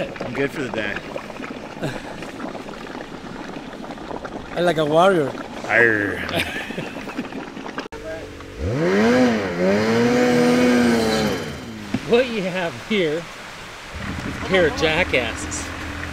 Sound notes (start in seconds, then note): 6.1 chuckling; 8.0 engine revving